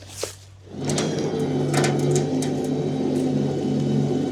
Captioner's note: trailer whirring